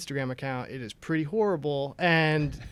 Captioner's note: laughter